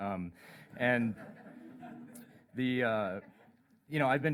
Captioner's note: laughter